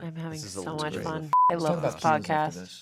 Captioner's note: beep